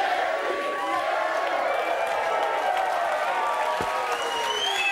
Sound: audience cheering

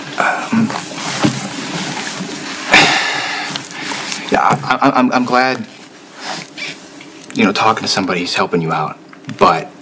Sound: sighs

